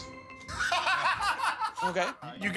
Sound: laughing

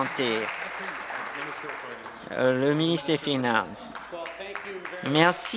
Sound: applause

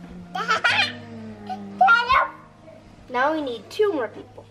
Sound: giggles

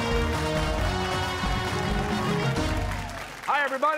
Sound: cheers and applause

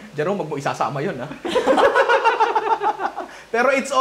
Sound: laughter

